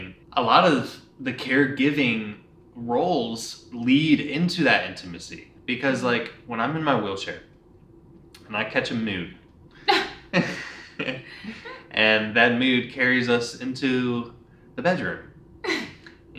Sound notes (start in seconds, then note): 9.8 laughs; 9.8 chuckles